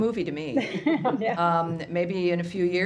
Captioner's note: laughter